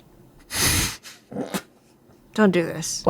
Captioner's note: laughs